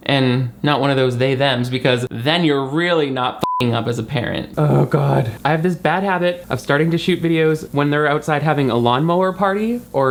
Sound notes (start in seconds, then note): 3.4 beep